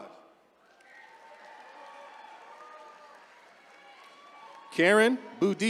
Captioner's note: attendees cheering